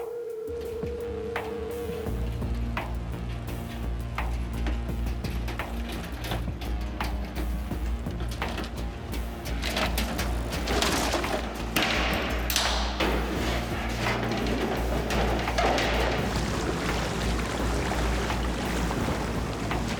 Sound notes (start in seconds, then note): 1.3 wind - bike sounds - music; 12.2 metallic noises; 16.9 wind + water